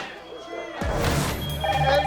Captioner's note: explosion crackling and popping continues; alarm beeping; phone ringing